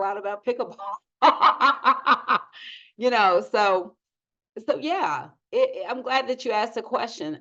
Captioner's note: laughs